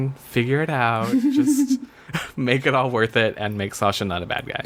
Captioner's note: laughs